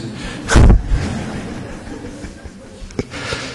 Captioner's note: laughter